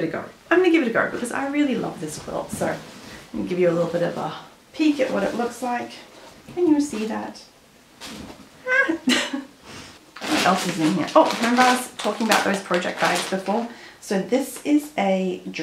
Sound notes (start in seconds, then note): 8.7 laughs